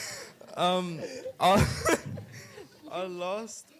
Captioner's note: laughing